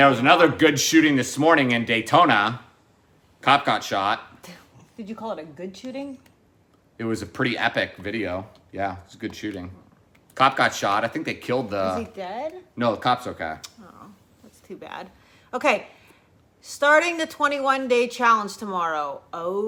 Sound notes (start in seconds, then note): 4.7 scoffs